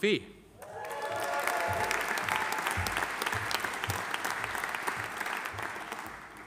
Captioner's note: audience cheering; audience applauding